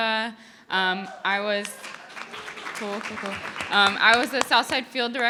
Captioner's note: audience cheering